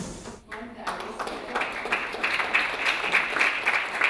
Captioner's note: clapping